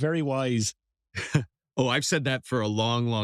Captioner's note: laugh